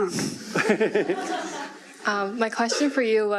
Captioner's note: laughing